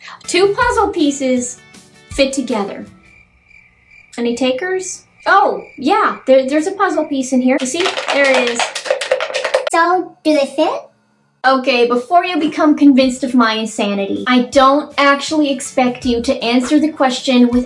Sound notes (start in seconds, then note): 2.0 crickets; 9.1 rattling; 9.7 high-pitched voice